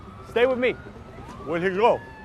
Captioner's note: sirens blaring